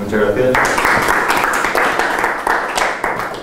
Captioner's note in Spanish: aplauso